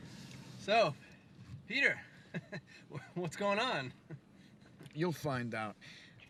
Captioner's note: laughs